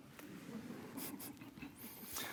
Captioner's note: audience laughter